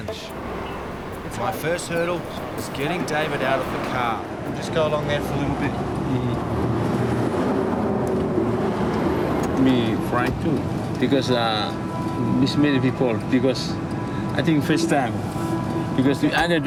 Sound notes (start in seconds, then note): 7.0 traffic noise